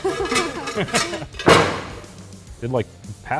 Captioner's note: laughter